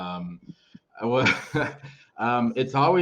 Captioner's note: chuckles